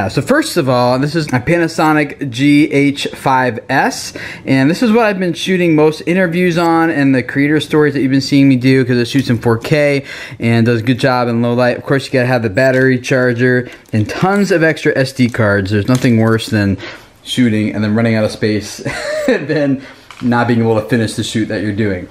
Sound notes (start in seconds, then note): 18.8 laughing